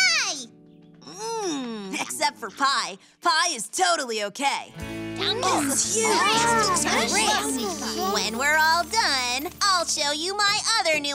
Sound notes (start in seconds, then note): 5.3 excited chattering, overlapping